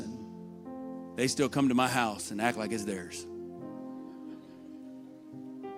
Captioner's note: laughter